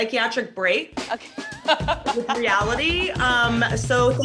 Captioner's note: laughs